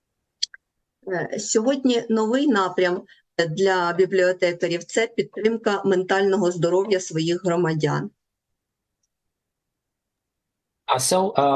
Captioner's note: foreign language